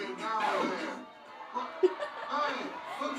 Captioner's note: record scratches